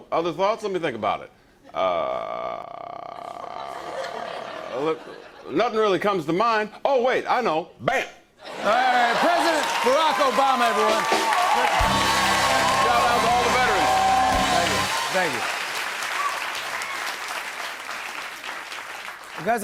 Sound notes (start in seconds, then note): 11.4 cheers and applause; 16.9 applause continues